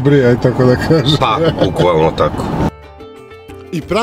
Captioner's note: laughs